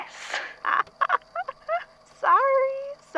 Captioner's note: laughs